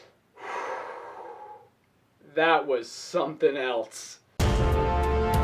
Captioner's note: deep breath